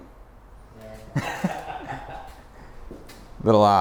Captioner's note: everyone laughs